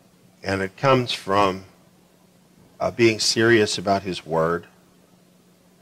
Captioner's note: none